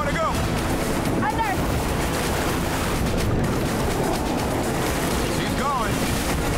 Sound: water rushing

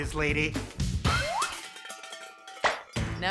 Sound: can clatters

